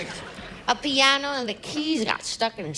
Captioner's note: laughter